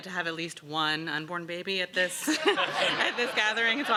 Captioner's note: laughs